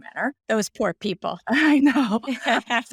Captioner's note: laughing